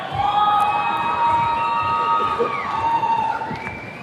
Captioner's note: attendees cheering